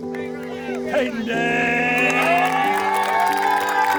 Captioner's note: applause